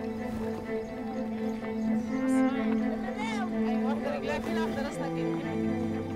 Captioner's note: overlapping chatter